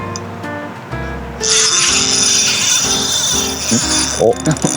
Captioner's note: drag sound